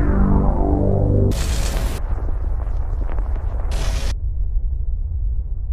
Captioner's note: dark electronic music; static crackles